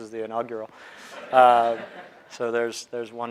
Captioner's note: audience laughing